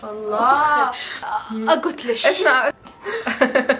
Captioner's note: in an Iraqi accent; laughs